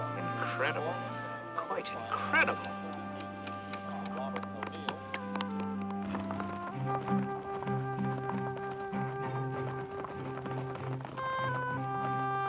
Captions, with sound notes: - Incredible, quite incredible! (Vickie clapping) (warm music)